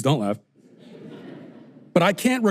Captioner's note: audience laughter